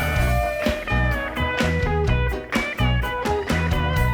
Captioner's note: upbeat guitar music; upbeat palming; audience cheers